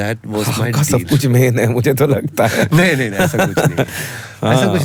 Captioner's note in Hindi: हंसी